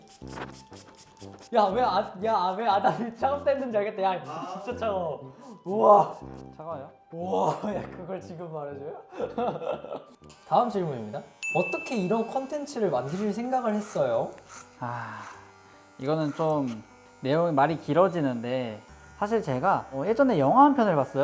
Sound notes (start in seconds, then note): 9.1 just laughing